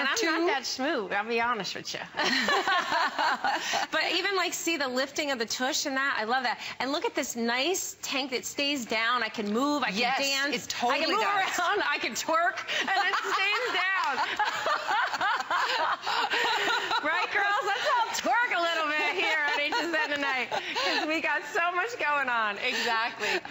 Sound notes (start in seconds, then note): 18.2 laughter